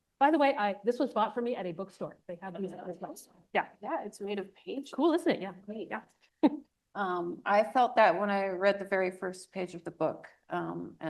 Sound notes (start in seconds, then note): 6.4 chuckles